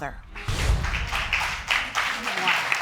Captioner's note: applause